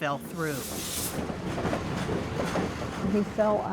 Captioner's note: train wheels clacking